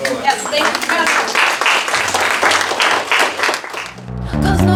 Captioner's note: applause